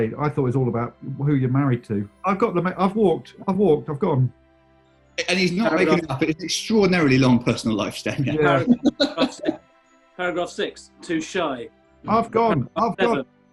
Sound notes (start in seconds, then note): 9.4 laughing